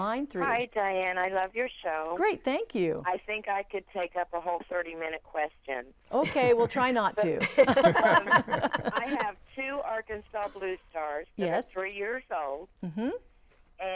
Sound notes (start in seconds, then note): 7.4 laughing